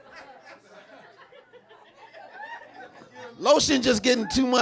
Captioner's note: audience laughing